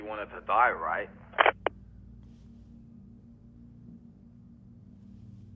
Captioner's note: phone line clicks off